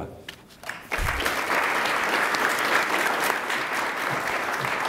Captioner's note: attendees applaud